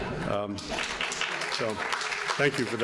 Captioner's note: audience laughing; audience applauding